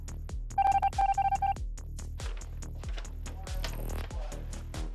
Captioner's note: machine beeping